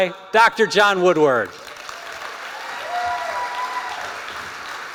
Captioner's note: cheering